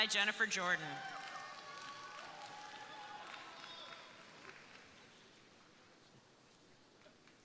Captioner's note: crowd cheering; crowd applauding